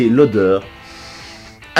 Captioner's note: sniff with passion